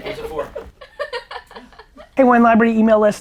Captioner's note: laughing